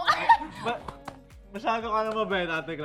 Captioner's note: laughs